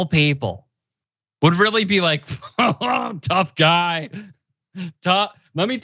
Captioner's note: laugh